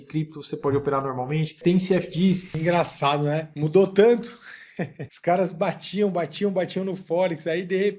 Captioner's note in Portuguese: risadas